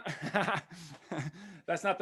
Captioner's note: laughs